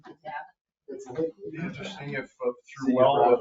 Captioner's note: people chattering